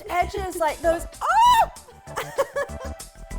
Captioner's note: laughs